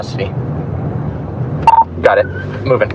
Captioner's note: radadio b beeeeps